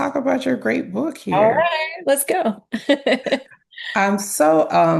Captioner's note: laughs